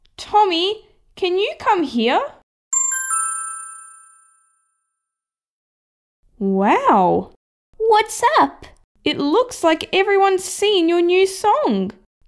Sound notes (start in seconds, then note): 2.7 ding!